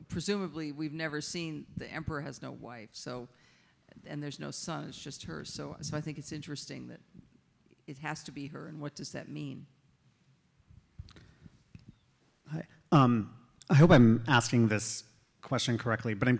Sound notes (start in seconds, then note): none